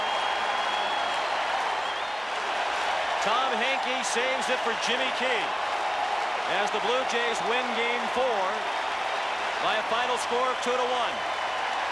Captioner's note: cheering and Applause